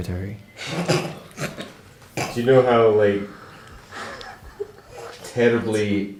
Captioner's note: snorts